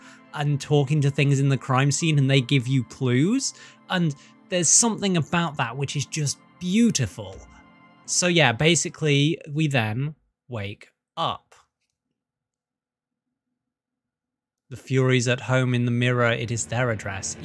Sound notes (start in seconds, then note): 11.7 silence